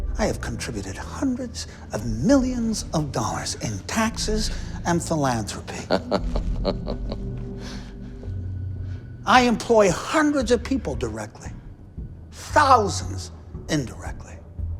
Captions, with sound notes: I have contributed hundreds of millions of dollars in taxes and philanthropy. (Chuck chuckles) I employ hundreds of people directly, thousands indirectly.